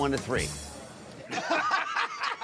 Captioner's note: laughter